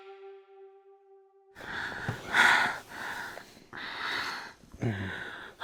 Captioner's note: Sofia and Jamie moan